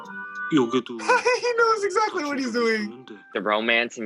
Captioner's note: laughs